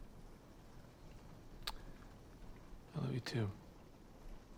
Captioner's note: clicks tongue